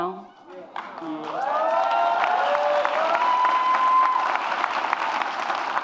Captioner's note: audience cheers and applauds